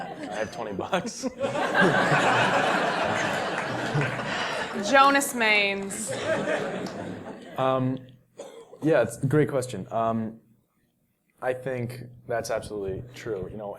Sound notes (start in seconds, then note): 1.0 laugh